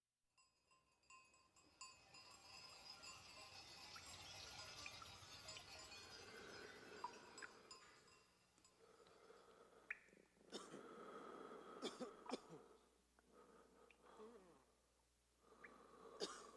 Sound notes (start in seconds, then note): 10.2 man coughing